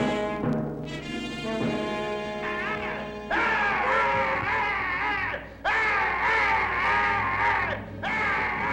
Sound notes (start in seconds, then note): 2.2 prisoners yelling